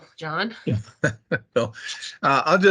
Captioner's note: laughs